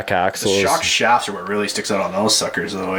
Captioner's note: voiceover